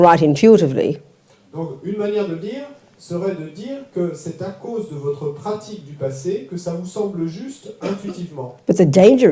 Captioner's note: French